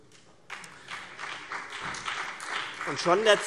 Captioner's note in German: Beifall BÜNDNIS 90/DIE GRÜNEN